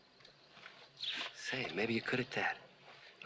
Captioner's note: whispering